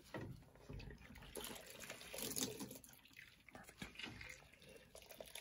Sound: wringing out washcloth

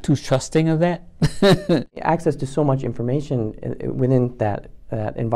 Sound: laugh

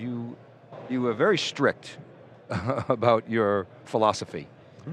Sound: laughs

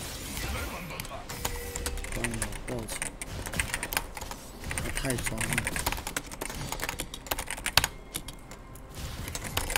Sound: typing

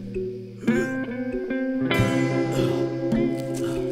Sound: retches

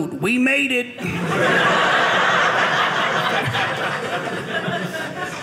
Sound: audience laughing

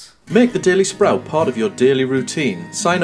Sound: voiceover

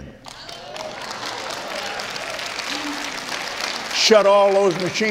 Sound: applauds

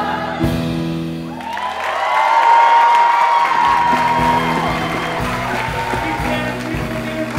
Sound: applause

